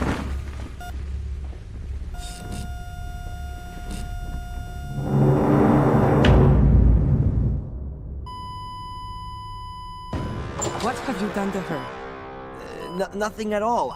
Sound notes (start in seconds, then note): 1.9 flatline; 1.9 tense music